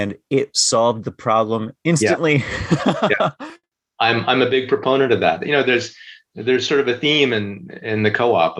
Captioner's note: laughter